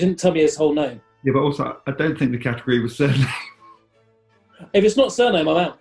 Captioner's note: laughing